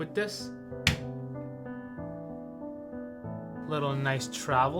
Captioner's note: slapping fridge; soft music